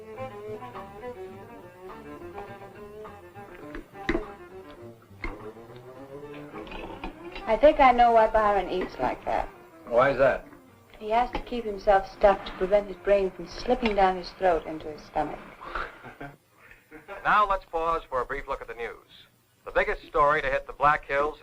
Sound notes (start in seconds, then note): 0.2 country music playing on radio; 15.7 Gil laughs; 17.2 radio Announcer